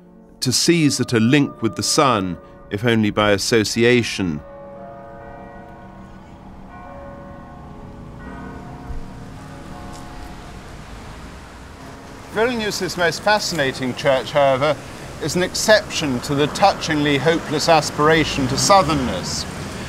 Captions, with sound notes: to seize at a link with the sun, if only by association. (BELLS CHIMING) Vilnius's most fascinating church, however, is an exception to the touchingly hopeless aspiration to southernness.